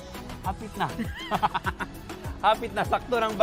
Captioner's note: laughs